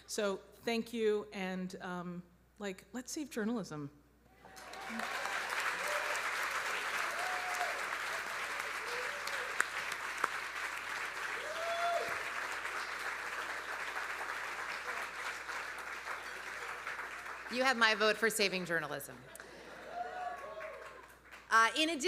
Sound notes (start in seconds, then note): 4.7 audience applauding; 4.7 audience cheering; 19.4 audience cheering; 20.1 audience laughing